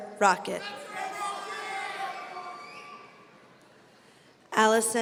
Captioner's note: audience cheering